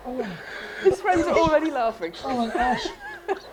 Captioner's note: laughter